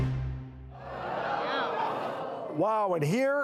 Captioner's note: audience exclaims